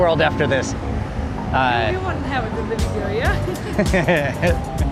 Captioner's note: laughing